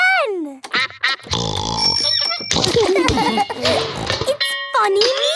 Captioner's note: giggling